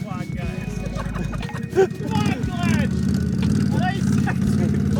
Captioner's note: laughing